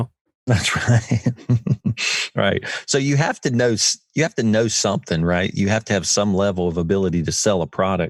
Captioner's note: laughs